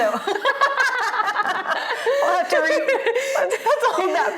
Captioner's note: both laughing